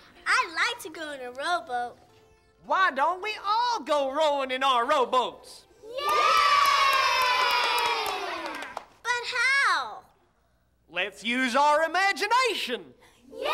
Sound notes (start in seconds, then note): 5.8 kids clapping and cheering